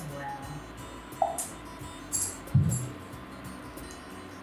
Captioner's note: cup tapping